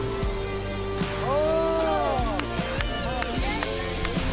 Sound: men cheer and applaud

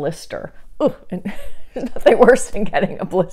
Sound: laughing

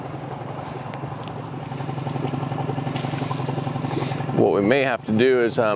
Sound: motor rustling continuing

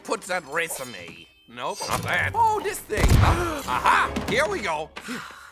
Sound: explosion, Harold gasps

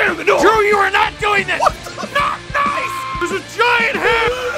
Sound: Harry potter screaming; screaming

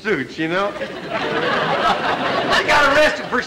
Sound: audience laughter

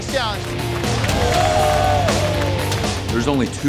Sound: applauding

